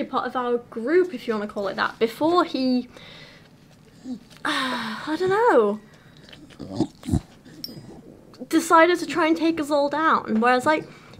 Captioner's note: sigh